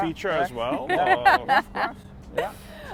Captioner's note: laughs